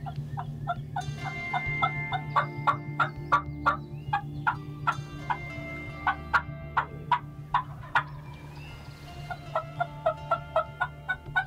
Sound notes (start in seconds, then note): 0.2 birds chirping; 3.2 doing turkey calls